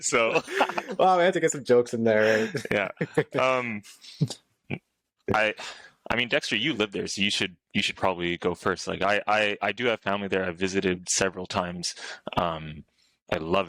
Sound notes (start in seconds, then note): 2.2 laughter